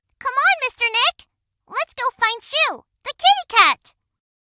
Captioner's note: none